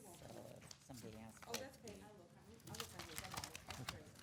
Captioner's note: papers shuffling